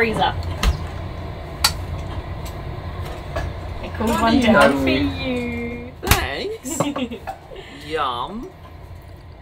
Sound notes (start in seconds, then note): 3.8 bottle clinking